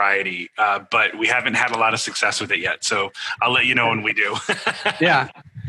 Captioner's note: laugh